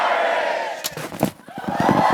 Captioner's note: reaction puffs